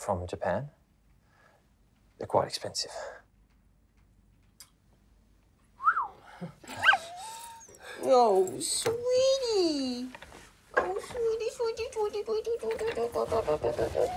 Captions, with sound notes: From Japan. They're quite expensive. - (whistles) (dog whines) Oh, sweetie! Oh, sweetie, sweetie, sweetie, sweetie...